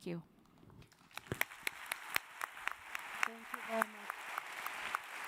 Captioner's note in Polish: oklaski